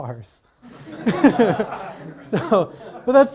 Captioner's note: audience laughs